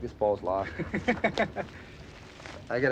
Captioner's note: kevin laughs